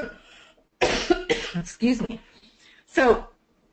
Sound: coughs

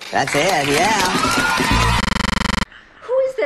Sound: applause

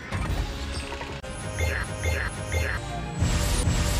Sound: grunting

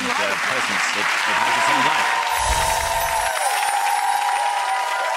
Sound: audience clapping

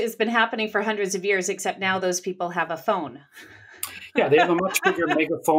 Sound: laughs

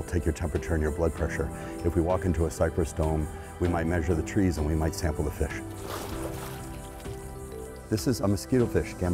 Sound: splash

